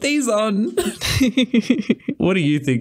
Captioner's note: laughter